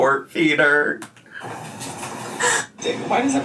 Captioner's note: laughing